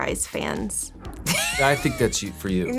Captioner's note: laughs